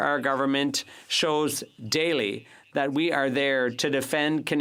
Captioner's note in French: voix de l'interprète